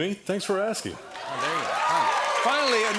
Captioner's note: cheers and applause